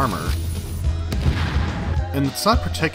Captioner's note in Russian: пау